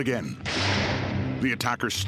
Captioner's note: suspenseful music; shotgun blast